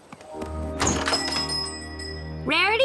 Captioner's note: door jingles